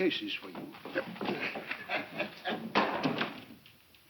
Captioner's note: laughing